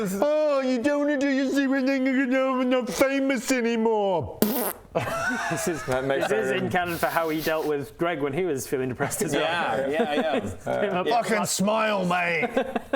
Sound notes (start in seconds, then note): 4.4 pbfft